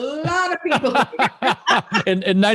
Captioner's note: laughter